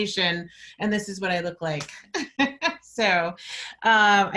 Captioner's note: laughs